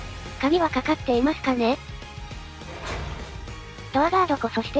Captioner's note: creak